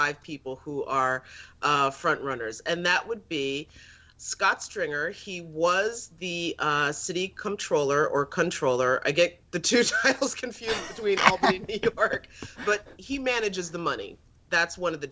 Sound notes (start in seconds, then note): 10.6 laughter